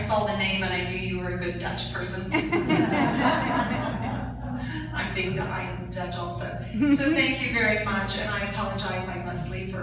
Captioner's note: audience laughs